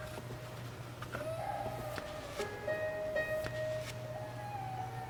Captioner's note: muffled crying